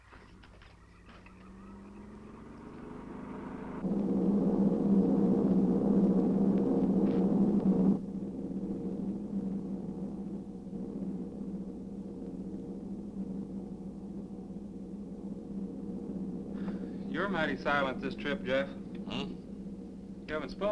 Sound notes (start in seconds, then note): 1.9 engine humming